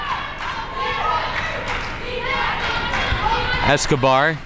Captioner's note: crowd chanting